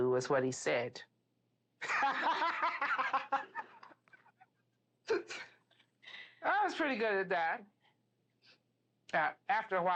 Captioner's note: laughs